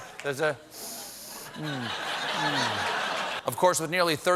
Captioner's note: sniffs